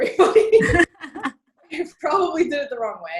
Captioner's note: laughing